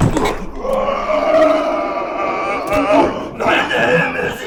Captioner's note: Jacob grunting; air whooshing; Jacob screaming